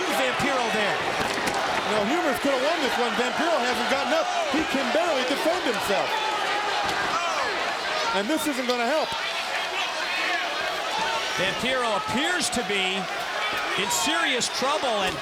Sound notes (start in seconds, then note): 10.0 crowd chatter